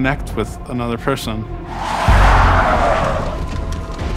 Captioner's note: tires screech